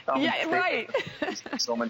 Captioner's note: laughter